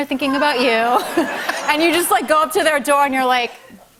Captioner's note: laughter